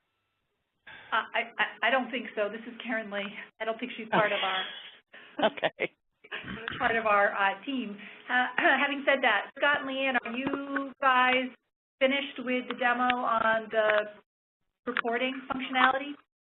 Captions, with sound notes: - I--I DON'T THINK SO. THIS IS KARYNLEE. I DON'T THINK SHE'S PART OF OUR... - [laughs] OKAY. - PART OF OUR TEAM. HAVING SAID THAT, SCOTT AND LEEANN, ARE YOU GUYS FINISHED WITH THE DEMO ON THE REPORTING FUNCTIONALITIES?